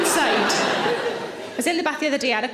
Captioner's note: audience laughs